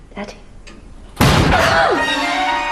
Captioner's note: bang